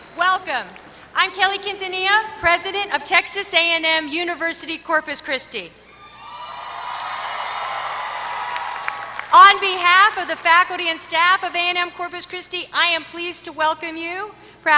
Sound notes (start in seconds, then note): 6.5 applause